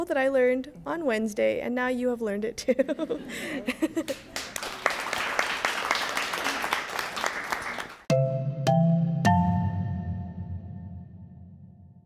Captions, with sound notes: that I learned on Wednesday and now you have learned it too. [laughs] [applause] [Musical Tones]